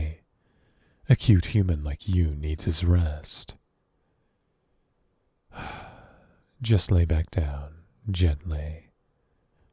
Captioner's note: sigh